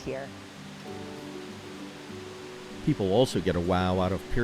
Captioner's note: water rushes